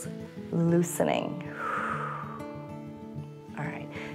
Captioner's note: exhales